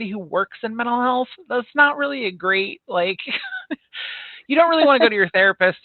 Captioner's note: chuckles